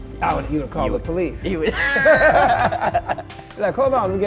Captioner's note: both laugh